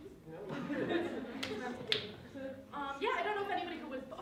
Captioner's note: laughter